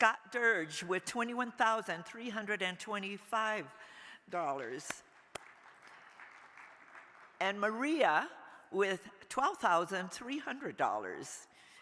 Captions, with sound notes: Scott Durge with $21,325, (crowd applauding) and Maria with $12,300.